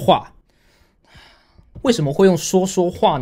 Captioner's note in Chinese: 嘆氣